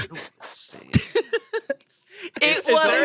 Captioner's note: they laugh